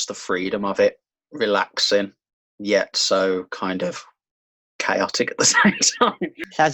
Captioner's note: laughs